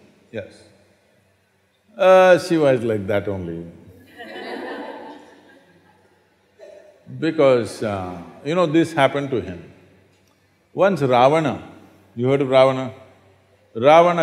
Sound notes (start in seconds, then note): 4.0 laughter